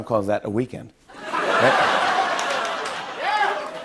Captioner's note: laughter